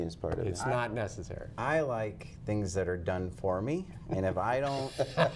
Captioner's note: laughter